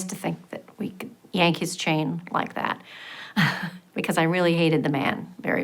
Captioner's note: laughs